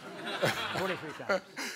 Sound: all laugh

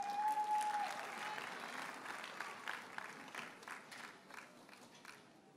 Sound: audience cheers and applauds

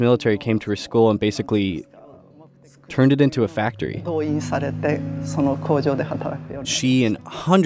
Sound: speaking Japanese

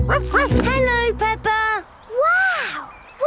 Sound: snorts; barks

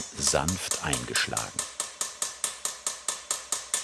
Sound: tinny hammering

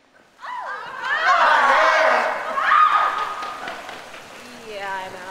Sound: audicence screaming

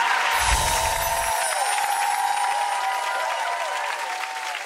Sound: audience applauding

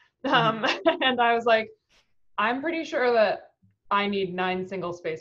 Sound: laughing

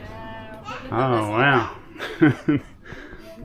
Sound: laughing

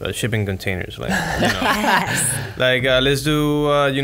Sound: laughs

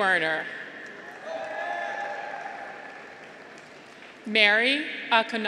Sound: graduates cheer

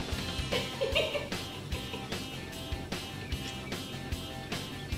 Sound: laughing

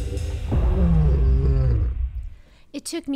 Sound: lion roars

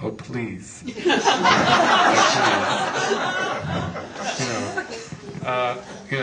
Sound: laughter

